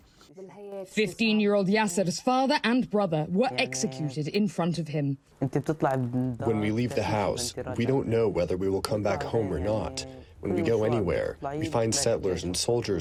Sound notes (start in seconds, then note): 7.0 through translator